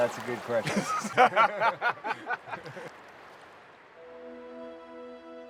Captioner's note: laughing